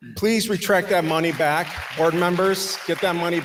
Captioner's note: audience applauding